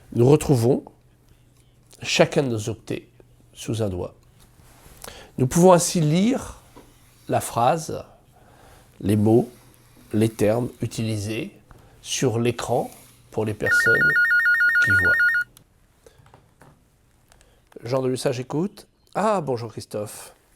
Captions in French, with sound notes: Nous retrouvons chacun de nos octets sous un doigt nous pouvons ainsi lire la phrase, les mots, les termes utilisés sur l'écran pour les personnes qui voient. [le téléphone sonne] Jean de l'Hussat j'écoute. Ah ! bonjour christophe,